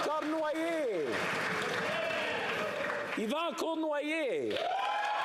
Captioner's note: applause